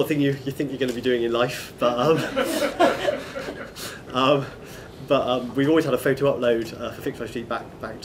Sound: laughter

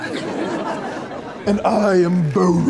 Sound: laugh track

